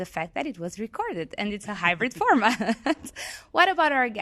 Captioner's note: laughs